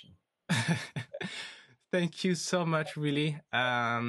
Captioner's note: laughs